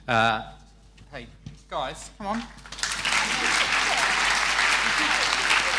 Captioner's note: applause